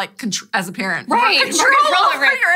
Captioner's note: laughs